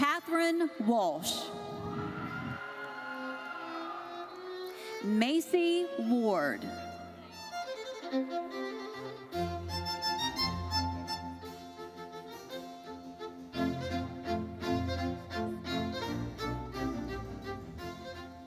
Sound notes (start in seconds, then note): 1.2 audience cheering; 7.1 bright lively music continues; 13.7 bright lively music continues